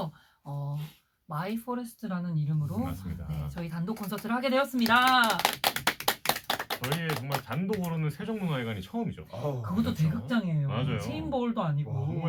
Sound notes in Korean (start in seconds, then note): 4.8 일동박수